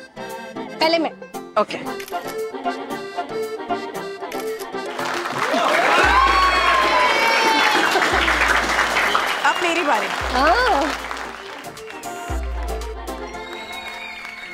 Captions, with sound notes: - First me. - Okay. [audience clapping and cheering] - It's my turn now. - Yes.